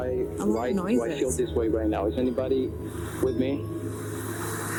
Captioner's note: recording playback